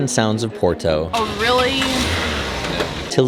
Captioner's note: car engine starts